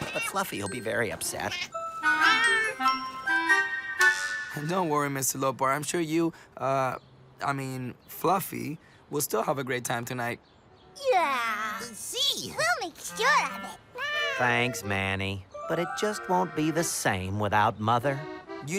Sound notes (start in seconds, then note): 1.4 playful meow